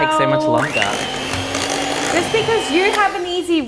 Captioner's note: whirring sounds